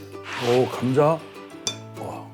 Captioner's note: Gugup